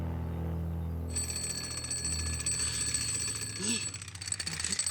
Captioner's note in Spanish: Sonido de alarma